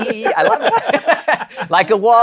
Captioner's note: laughter